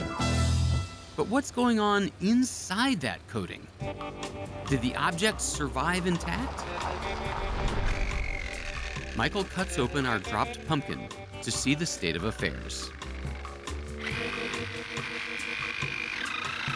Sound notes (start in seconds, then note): 7.4 saw whirring; 12.5 whirring continues; 16.6 whirring stops